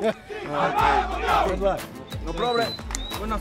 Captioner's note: chanting